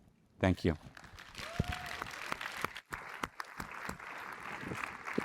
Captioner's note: audience applauds